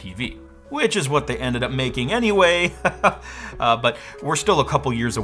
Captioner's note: laughs